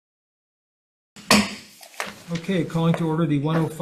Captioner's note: gavel taps